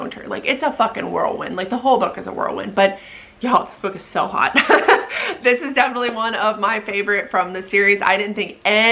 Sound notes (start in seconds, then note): 4.6 laughs